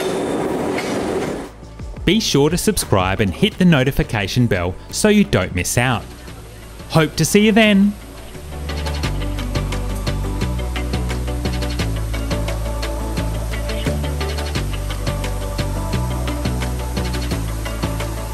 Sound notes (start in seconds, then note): 8.1 water rushing; 11.1 beeping; 11.1 dramatic music